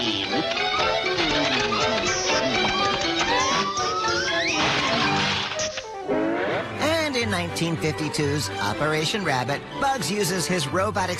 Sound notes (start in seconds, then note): 1.3 Bugs smooching; 4.1 robot pops